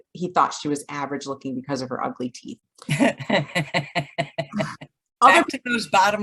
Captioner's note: laughter